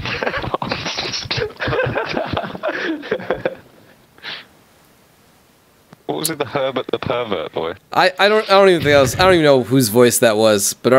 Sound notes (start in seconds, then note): 0.0 laughter; 6.3 voiceover